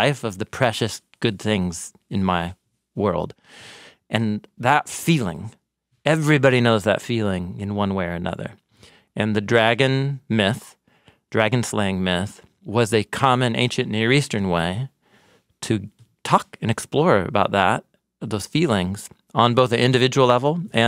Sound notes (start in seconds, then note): none